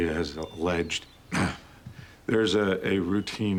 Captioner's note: clears throat